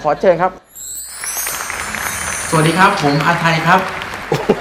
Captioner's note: applause; laughter